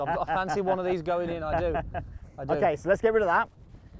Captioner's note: laughs